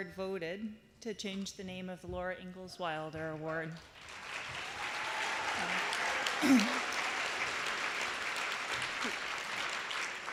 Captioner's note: applause